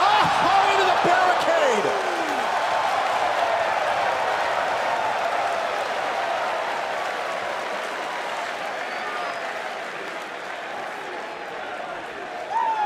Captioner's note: crowd cheering